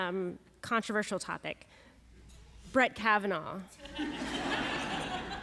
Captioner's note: laughter